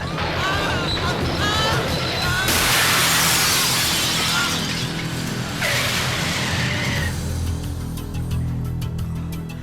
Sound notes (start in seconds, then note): 2.4 glass shatters; 6.5 wheels screeching